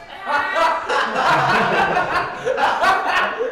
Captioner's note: all laughing